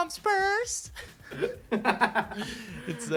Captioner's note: both laughing